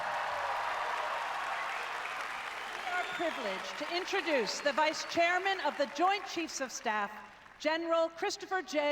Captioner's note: applause